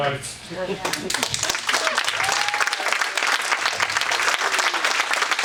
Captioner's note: audience applauding